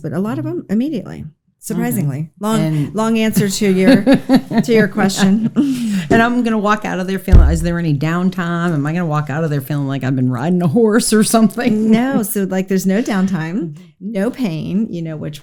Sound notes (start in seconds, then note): 3.4 laughs